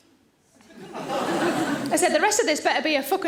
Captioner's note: audience laughing